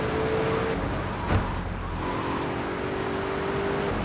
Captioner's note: plane engine roaring